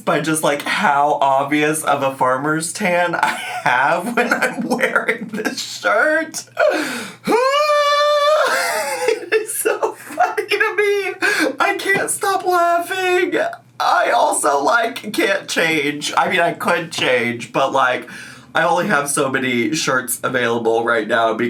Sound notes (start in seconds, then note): 7.2 yells; 10.8 laughs